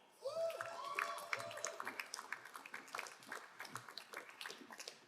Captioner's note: crowd cheering and applauding